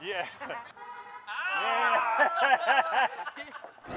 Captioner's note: cheering